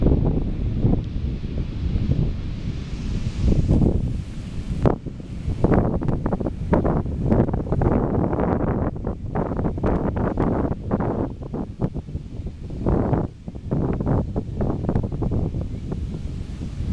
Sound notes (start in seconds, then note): 5.0 the wind in the background